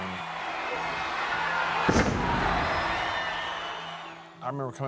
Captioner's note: crowd murmuring